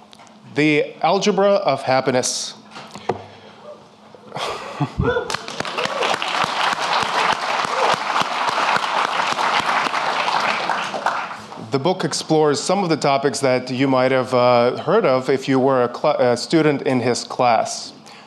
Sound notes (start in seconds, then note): 3.0 audience cheering and applauding